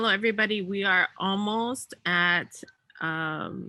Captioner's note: speaks in native language